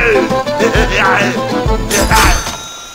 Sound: legendary heavy laughs

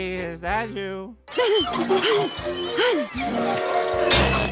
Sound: panting; whistle blowing

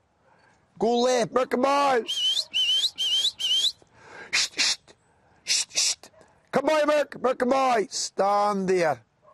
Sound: whistles

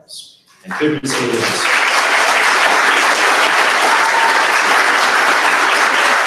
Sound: audience applauds

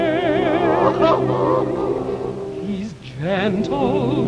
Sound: Mr. Bones sobbing

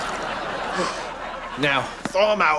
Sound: gasping

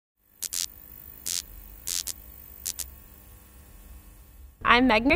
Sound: electricity buzzing

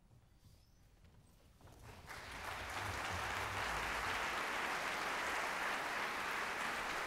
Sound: applause

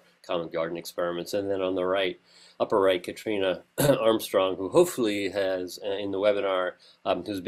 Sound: cough

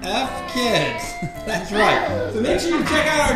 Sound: voiceover

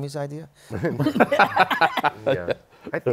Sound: laughter

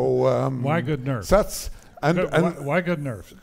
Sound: laughs

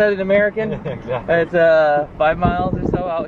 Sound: chuckles

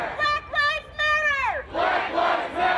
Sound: crowd

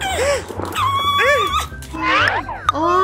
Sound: screams

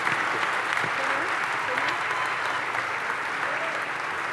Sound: applause

